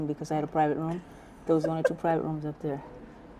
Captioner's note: laughter